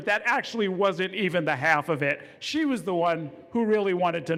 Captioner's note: none